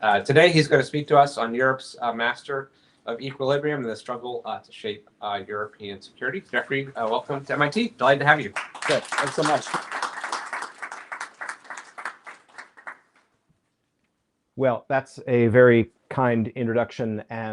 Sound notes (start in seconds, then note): 9.9 applause